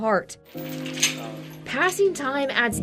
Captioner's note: chains clanking